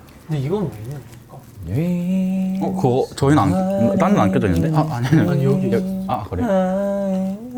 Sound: is humming a carol out of nowhere

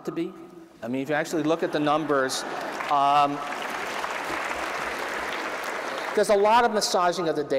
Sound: applause

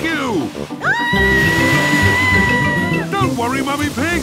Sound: screaming

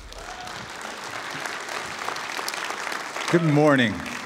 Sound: cheering

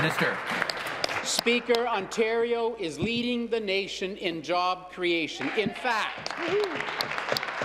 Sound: applause

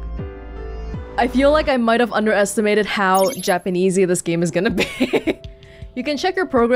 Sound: chuckles

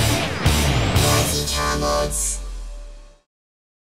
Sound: Synthetic voice over

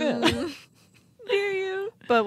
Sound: chuckling

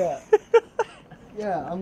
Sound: laughs

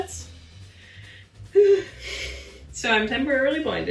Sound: sighs

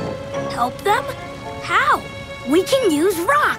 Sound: none

